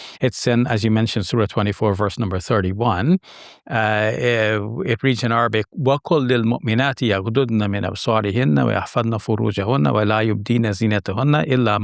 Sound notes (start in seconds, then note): 5.5 speaking in Arabic